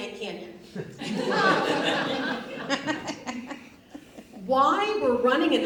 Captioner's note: audience laughs